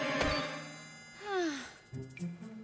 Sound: Blake sighs in relief

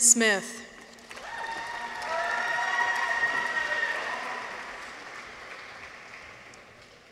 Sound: audience applauds; people cheer

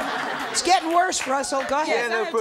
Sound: audience laughter

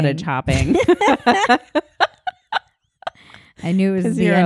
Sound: laughing

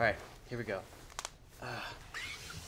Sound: none

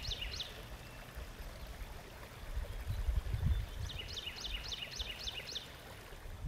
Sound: birds chipping; water rippling

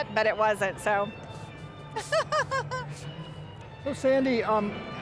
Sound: laughing

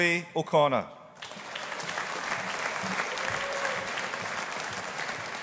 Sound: audience applauding

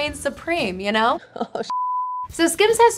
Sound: beep

